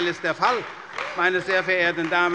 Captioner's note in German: Beifall bei der CDU